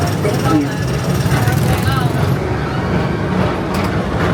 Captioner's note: train chugs